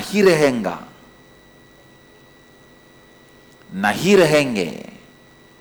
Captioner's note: hindi